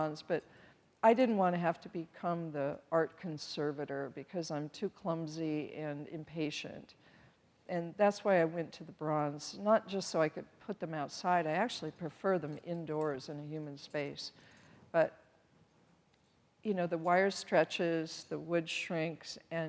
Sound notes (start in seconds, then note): none